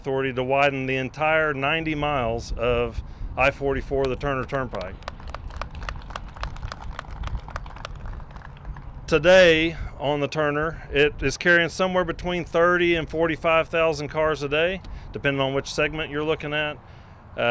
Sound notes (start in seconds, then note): 4.6 applause